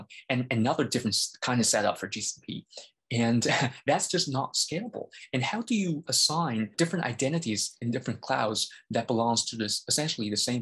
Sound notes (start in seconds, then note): 3.2 laughs